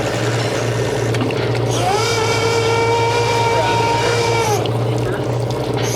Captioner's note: motor whirring